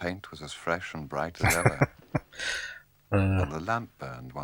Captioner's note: chuckling